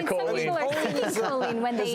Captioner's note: laughs